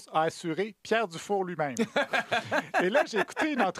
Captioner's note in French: rire